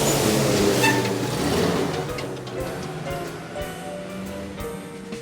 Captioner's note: brakes squeaking